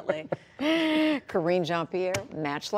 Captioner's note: laughter